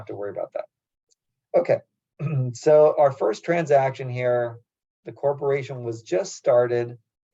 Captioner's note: cough